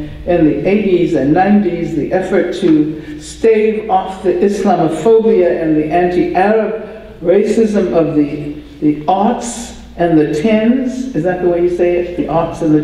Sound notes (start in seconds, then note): none